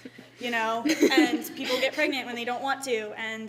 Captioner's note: laughter